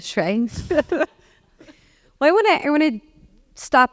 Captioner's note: laugh